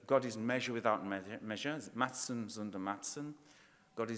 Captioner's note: speaking in foreign language